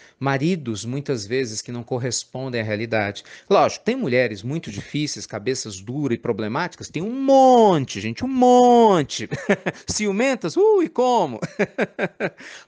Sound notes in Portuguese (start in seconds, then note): 9.2 risadas